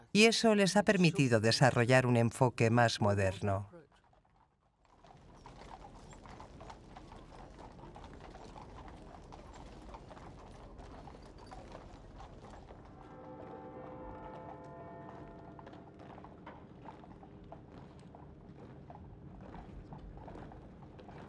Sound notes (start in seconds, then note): 6.3 horses trotting; 13.1 church bell tolls